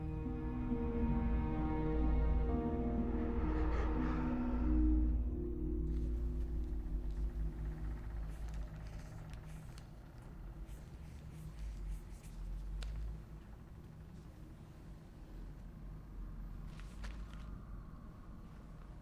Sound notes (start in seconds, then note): 0.1 suspenseful music; 9.1 pen scribbling